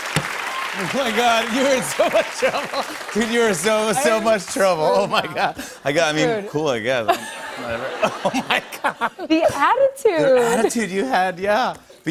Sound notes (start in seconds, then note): 1.6 laughing